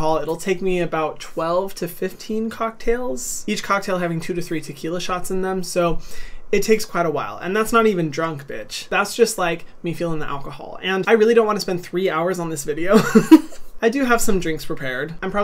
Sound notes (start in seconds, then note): 13.0 laughing